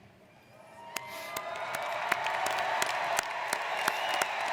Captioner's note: applauding